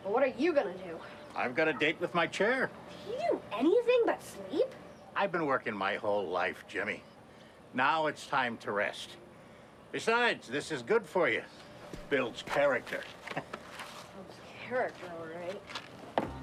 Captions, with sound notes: - Well, what are you gonna do? - I've got a date with my chair. - Do you do anything but sleep? - I've been working my whole life, Jimmy. Now it's time to rest. Besides this is good for you, builds character. (chuckling) - Builds character, all right.